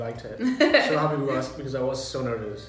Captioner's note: laughs